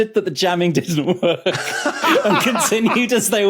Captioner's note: laughs uproariously; laughs